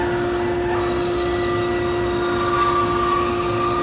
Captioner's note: saw rasping